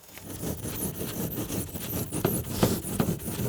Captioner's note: foam scraping